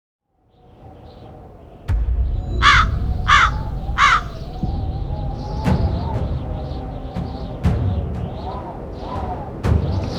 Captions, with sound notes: (Crows cawing) (Wind whistling) The desolate poppy fields of the East.